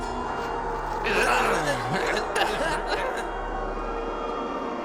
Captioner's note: puppet laughing; puppet groaning; ominous music